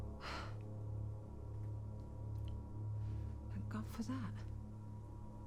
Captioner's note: sighs